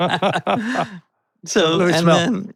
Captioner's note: both laughing